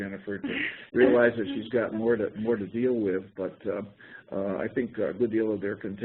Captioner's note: laughter